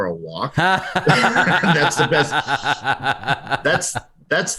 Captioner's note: laughter